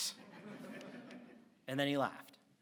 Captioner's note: audience laughs